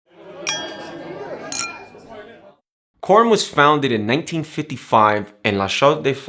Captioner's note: chattering